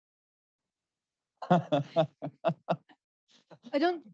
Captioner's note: laughs